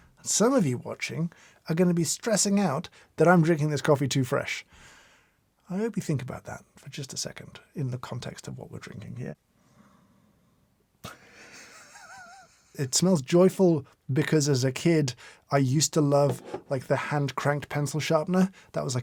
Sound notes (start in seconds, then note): 11.5 laughs